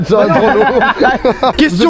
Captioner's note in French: rires